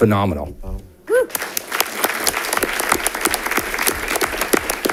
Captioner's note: audience applauding